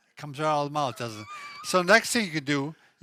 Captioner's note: laughs